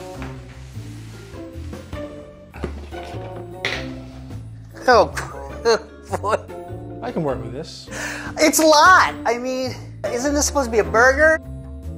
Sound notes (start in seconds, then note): 0.1 quirky mellow music; 5.7 laughs; 11.8 quirky mellow music